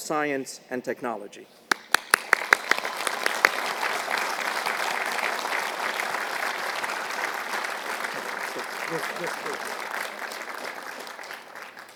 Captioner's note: applause